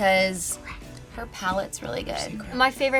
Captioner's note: whispering